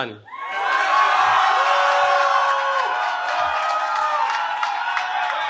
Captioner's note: cheering